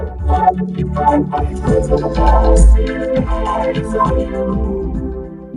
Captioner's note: dramatic voice